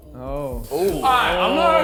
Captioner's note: men exclaiming